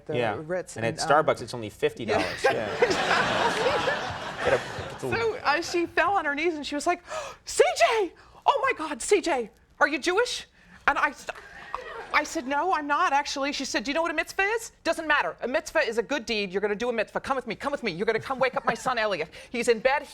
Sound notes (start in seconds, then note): 2.2 Alison and audience laughing; 7.2 gasps